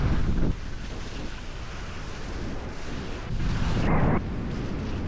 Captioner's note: wind whooshing continues; skis swishing continues